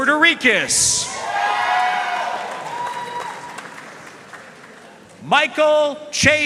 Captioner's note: audience cheering and applauding